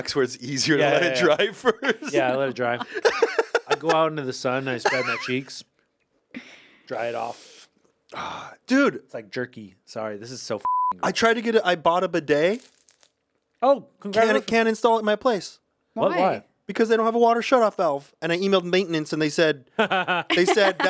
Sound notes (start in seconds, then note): 3.1 Anthony laughs; 10.6 beep; 19.8 Ian laughs